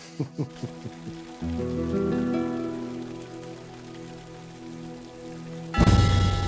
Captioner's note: chuckles; fountain streaming; bell tolls